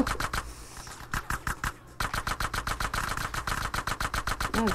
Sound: gunfire

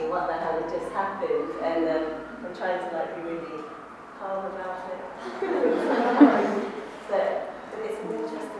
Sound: laughs

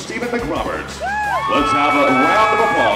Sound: cheering

